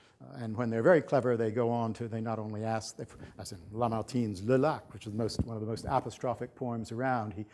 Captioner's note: french